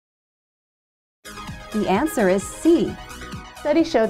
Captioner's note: female announcer speaking